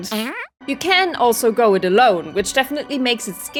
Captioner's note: fart noise